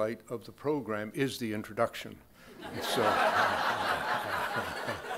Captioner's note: crowd laughing